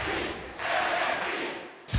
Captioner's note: fans chanting